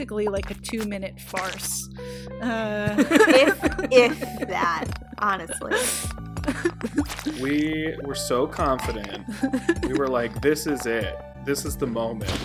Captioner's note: all laugh